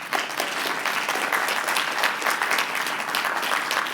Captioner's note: applause